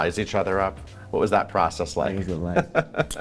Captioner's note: laughing